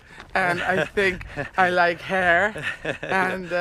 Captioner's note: laughing